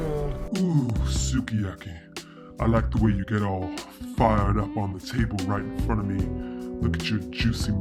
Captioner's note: deep, manly voiceover